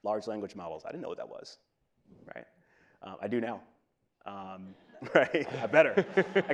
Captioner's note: laughs